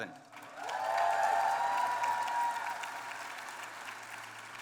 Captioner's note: applause